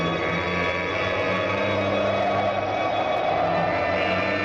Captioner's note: wind howling